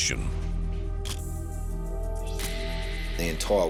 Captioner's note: camera shutter click